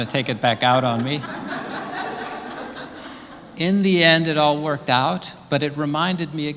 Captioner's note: laugh